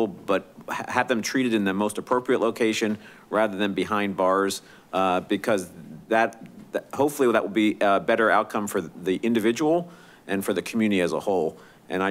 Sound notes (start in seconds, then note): none